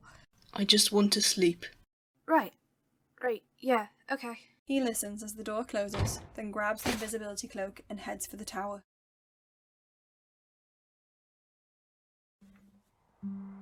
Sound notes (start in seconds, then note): 5.9 door shuts; 6.1 cloak rustles